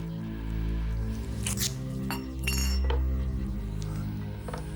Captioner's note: tape ripping; suspenseful music